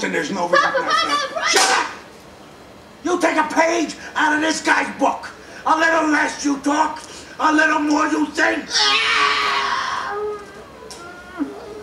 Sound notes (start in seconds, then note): 8.6 wails